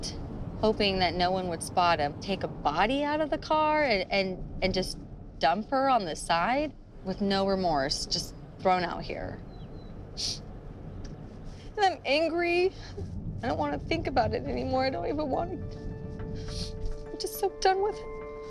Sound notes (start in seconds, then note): 10.2 sniffling